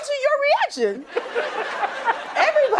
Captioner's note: laughing